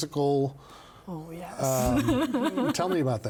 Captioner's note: laughing